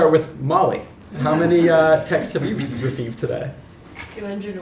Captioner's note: laugh